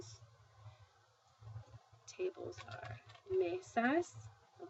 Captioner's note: speaking spanish